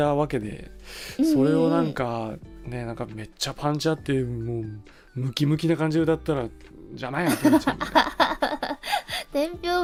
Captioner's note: Roboco laughs